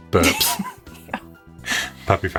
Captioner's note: laughs